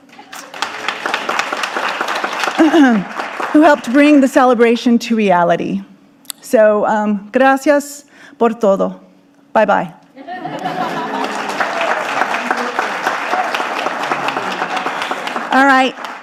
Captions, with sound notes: who helped bring the celebration to reality. So (speaking in foreign language) Bye-bye. (audience applauding)